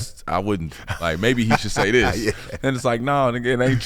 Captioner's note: laughing